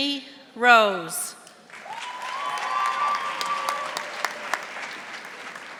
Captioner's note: audience applauding